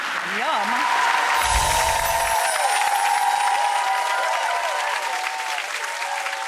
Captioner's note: people cheering; chimes tinkling